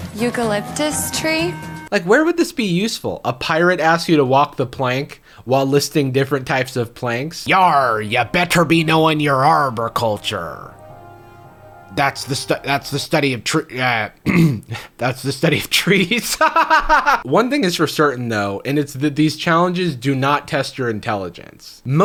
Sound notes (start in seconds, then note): 15.9 laughing